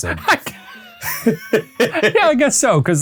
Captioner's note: laughing